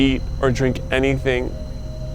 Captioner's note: birds chirp